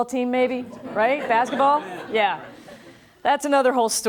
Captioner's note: laughing